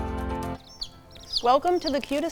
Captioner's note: chicks chirping